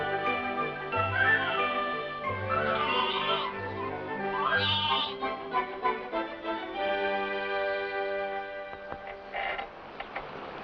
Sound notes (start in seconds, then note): 0.1 bright music; 4.3 bleating